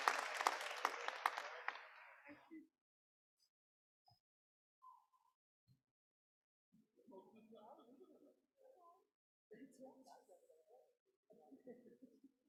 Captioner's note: applause